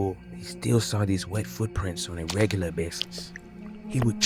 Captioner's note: squish